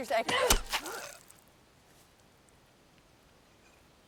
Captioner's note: Abigail gasps